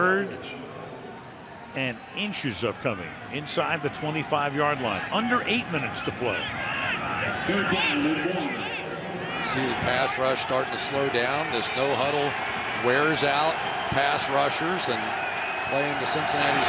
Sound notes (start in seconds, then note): 8.1 pa announcement